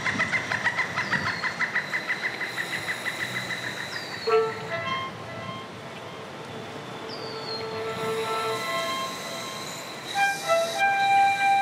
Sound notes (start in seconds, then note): 4.3 birds chirping; 4.3 gentle instrumental music